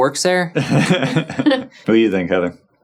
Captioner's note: chuckling